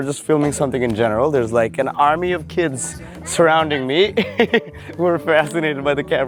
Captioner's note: laughs